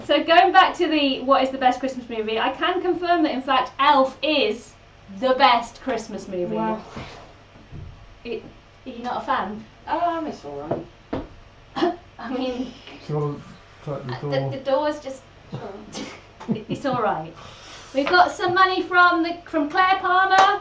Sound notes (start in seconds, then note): 11.7 coughs; 15.6 laughs